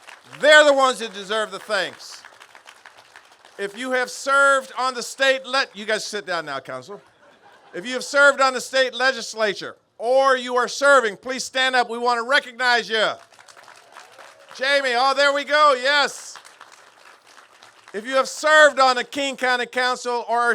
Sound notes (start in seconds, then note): 6.9 laughter; 13.0 applause